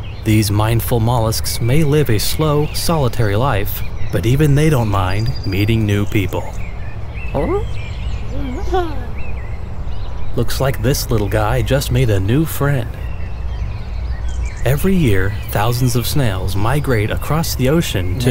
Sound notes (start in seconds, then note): 8.3 cheerful noises; 8.4 curious grunt